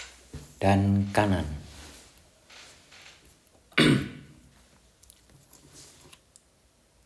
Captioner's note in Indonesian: berdehem